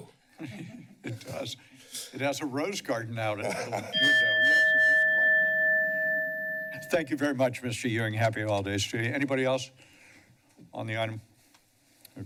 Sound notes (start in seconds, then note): 0.4 nervous chuckles; 3.4 laughter; 3.9 bell rings